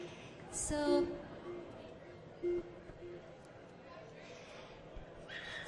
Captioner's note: machine beeping